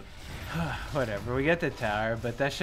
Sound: sighs

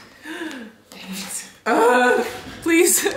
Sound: gasps

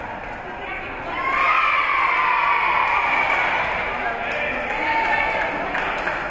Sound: spectators cheering and applauding

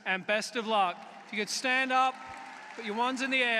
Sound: applause

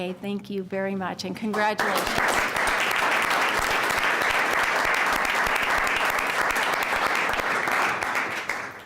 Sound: applause

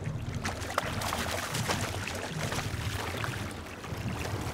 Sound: fish splashing

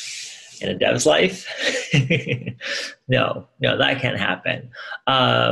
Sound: chuckles

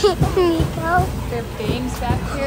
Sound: chuckles

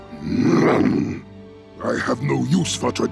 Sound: growls

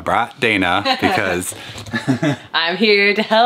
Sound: laughing

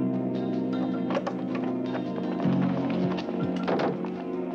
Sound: door clatters

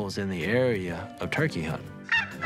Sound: turkey call clucking

